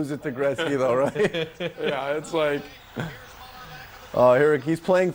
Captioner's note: laughter